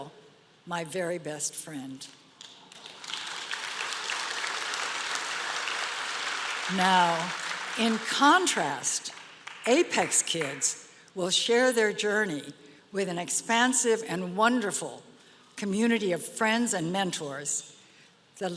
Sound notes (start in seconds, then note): 2.4 applause